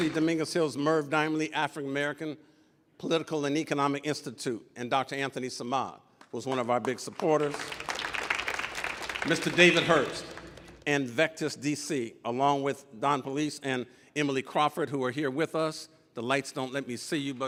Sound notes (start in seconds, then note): 6.4 audience applauding